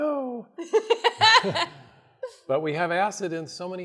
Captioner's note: laughs